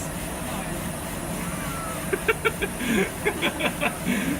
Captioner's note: laughter